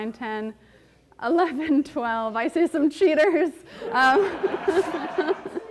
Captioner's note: chuckles; audience laughing